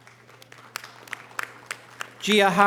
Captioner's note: audience applause